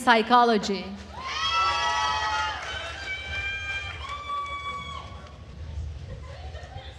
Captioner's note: attendees cheering and applauding